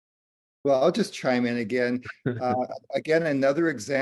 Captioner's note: laughter